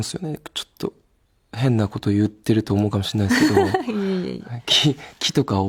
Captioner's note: laughs